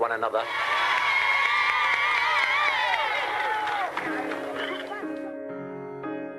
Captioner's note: crowd cheering; crowd applauding; gentle somber music